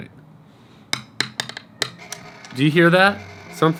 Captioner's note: tapping